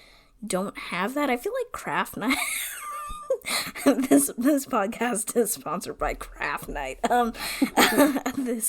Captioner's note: laughs